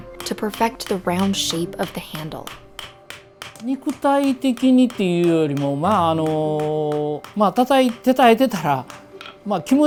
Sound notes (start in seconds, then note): 3.3 metal pounding; 4.2 speaking foreign language